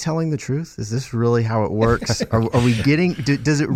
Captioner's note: panelist laughing